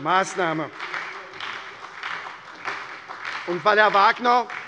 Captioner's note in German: Beifall bei der SPD